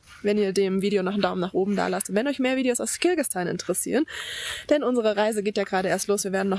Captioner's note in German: japst